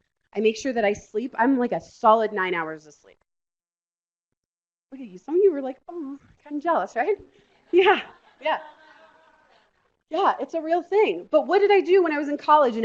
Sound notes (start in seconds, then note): 7.6 laughter